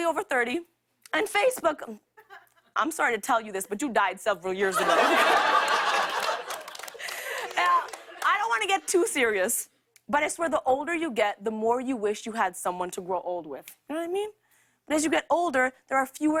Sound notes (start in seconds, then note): 4.7 laughter